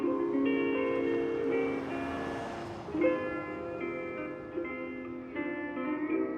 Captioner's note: cars whooshing; soft Hawaiian music